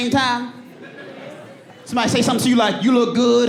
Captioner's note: audience laughs